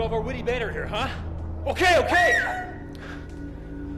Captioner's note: she screams